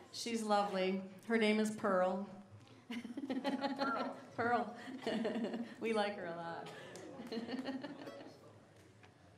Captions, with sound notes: She's lovely. Her name is Pearl. (laughing) - Pearl. - Pearl. We like her a lot.